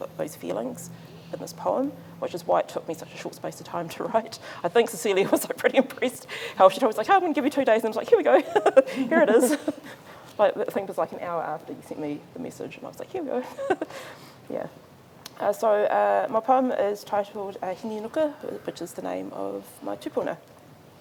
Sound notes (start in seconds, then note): 13.4 chuckles